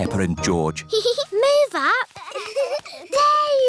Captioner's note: peppa giggles